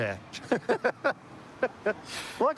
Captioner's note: laughter